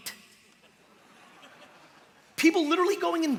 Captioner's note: light laughter